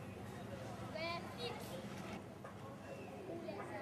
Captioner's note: none